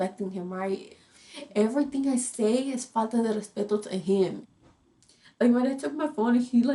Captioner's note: speaks in foreign language